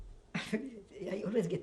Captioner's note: laughs